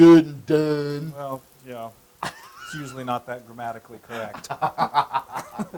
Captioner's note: laugh